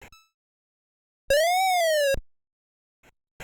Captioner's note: 8-bit computer sound effect